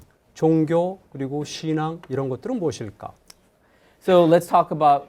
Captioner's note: speaking in Korean